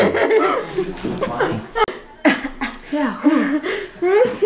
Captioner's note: laughing excitedly